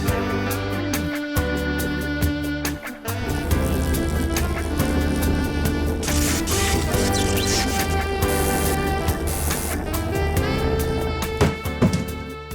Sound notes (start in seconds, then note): 2.6 box vibrates; 11.3 thuds